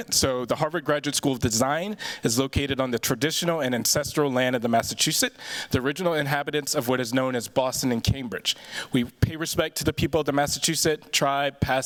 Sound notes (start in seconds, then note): none